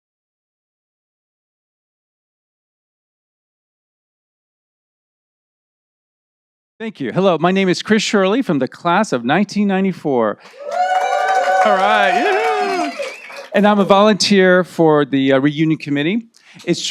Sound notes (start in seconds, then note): 10.4 audience cheering